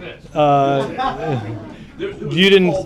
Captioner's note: laughter